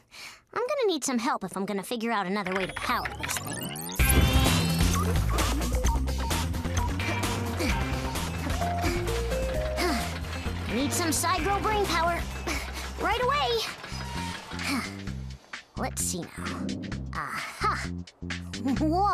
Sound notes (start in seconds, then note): 7.2 grunts & groans